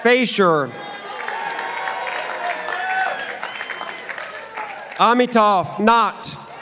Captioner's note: participants applauding